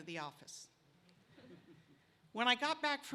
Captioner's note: laughter